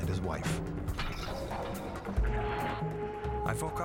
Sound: glass breaking

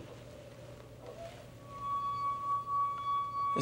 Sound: tone resonates

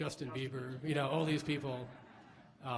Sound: laughs

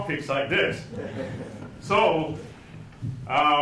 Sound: audience laughing

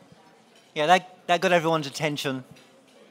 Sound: none

